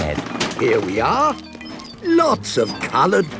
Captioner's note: bangs and rattles